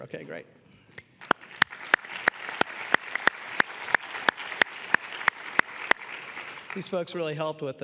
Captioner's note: applause